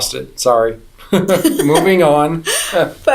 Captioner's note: laughter